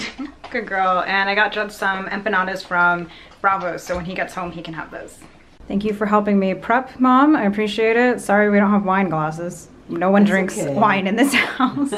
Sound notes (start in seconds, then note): 0.0 laughs; 11.1 both laugh